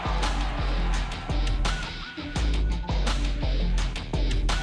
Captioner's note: crowd cheering